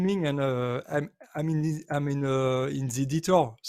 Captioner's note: none